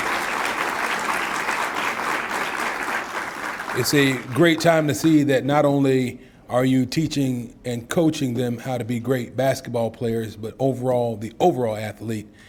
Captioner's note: applause